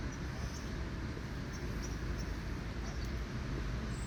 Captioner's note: birdsong